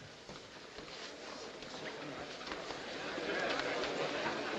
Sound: courtroom muttering

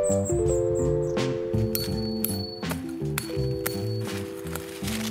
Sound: digging

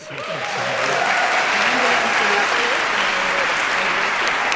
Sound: cheering, clapping

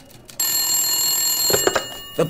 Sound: phone rings

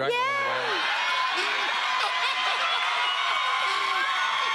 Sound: audience cheering

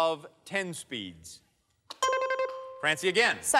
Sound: bell chimes

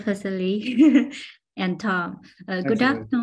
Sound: laughs

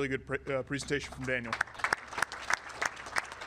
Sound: audience clapping

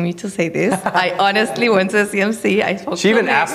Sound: laughing

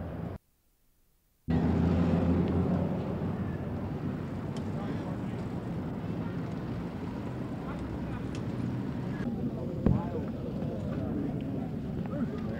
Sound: ambient street, crowd noise; ambient street, crowd noise

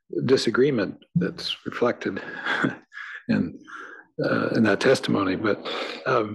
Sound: laugh

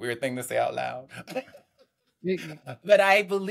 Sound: laughs

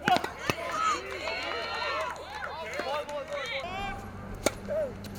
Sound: audience applauses and cheers

